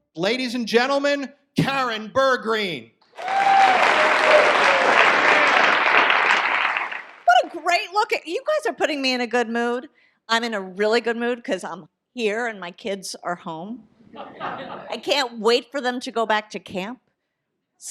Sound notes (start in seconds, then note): 3.1 audience applause